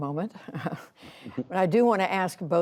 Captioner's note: laughter